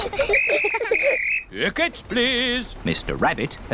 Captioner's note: blows whistle